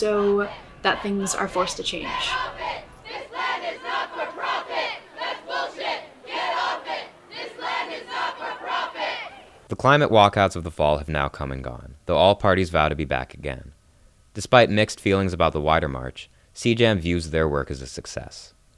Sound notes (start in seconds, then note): 2.7 chanting